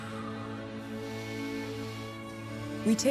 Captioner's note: inhaling